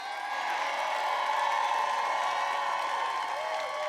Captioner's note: applause